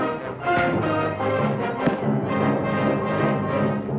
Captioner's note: thuds